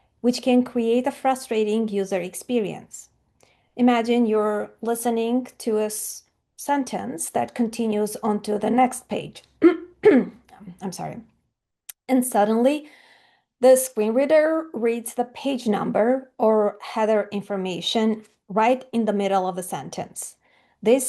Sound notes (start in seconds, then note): 9.6 clearing throat